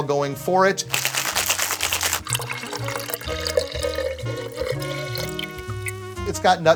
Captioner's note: ice rattles; liquid drains